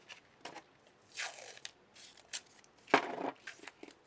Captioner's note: tape unreeling